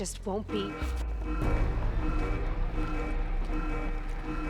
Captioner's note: alarm